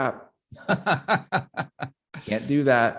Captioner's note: laughs